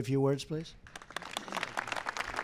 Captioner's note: applause